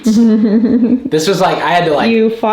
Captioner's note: laughs